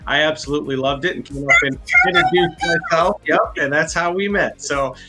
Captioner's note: murmurs